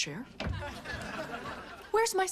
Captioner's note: laughing continues, then subsides